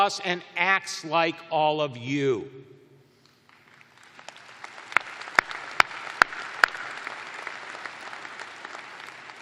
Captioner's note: applause